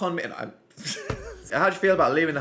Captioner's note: laughs